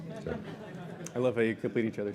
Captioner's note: laughter